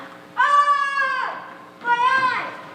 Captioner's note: Polyphemus screams